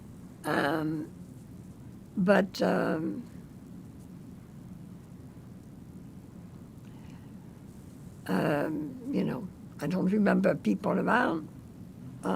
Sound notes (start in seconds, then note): 3.4 pauses 6 seconds